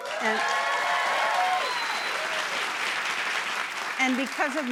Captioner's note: cheers and applause